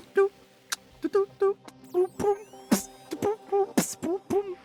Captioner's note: beatboxing